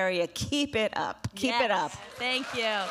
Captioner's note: applause